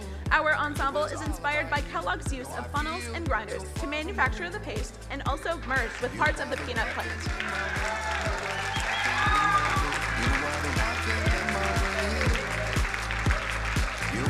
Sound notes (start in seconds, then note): 7.5 crowd cheering and applauding